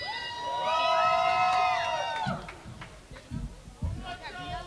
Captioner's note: crowd cheering